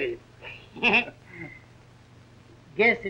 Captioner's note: laughs